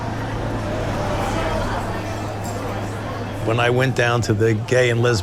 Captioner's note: car driving; people conversing